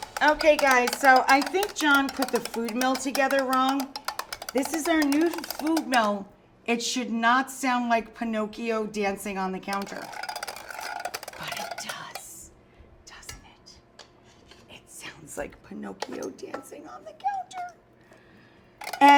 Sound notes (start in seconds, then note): 9.8 rhythmic tinkering